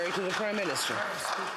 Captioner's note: some Applause